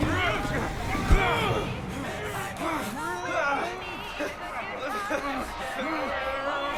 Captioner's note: cheerful music on radio; grunting